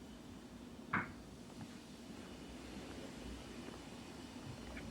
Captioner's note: footsteps approaching